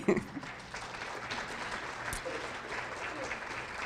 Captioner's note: audience clapping